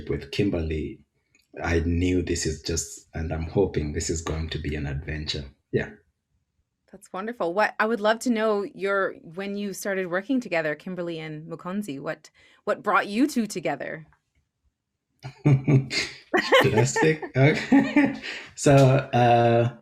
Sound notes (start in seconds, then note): 16.3 laughs